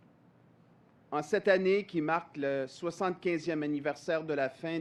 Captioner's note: speaks French